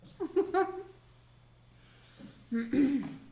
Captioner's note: laughing